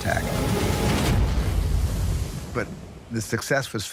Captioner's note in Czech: exploduje bomba